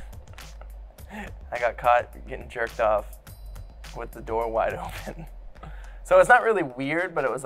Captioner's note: laughs